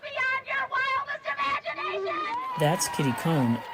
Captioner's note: crowd cheers, yeah!; cheers